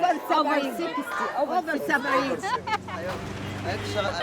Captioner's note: laughing; all speaking Arabic